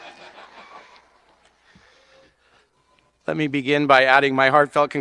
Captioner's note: audience cheering and laughing